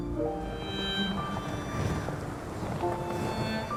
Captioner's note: wind whipping